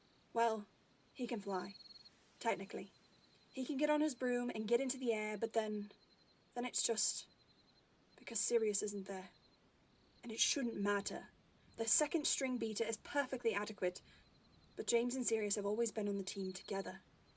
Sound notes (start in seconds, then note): none